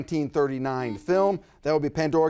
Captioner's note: buzzer buzzes